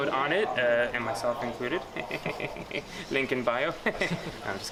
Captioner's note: laughs